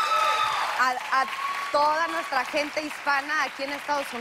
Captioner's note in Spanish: Exclamaciones y aplausos